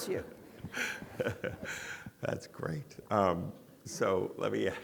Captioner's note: audience laughing